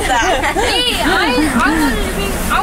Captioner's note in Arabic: يضحك